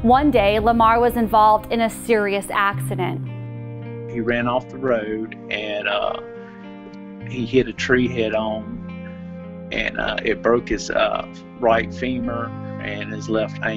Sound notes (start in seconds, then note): none